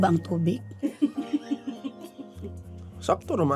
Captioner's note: staff laughing